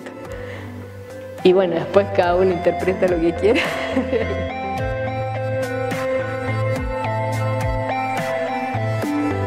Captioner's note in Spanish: ríe